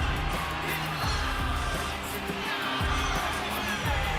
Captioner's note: crowd cheering